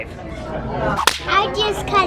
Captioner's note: exaggerated slap noise